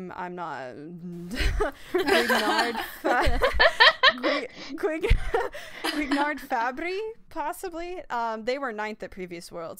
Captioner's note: laughter